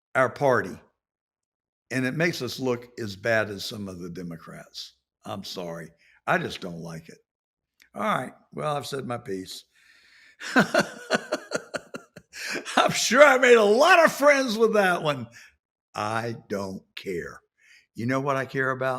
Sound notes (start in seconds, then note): 10.4 laughs